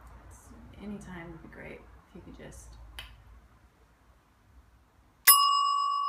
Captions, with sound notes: Anytime would be great if you could just (clicks)